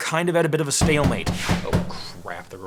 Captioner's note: door banging